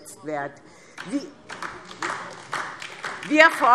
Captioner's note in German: Beifall DIE LINKE